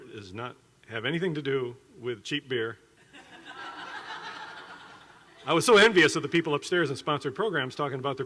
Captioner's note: laughing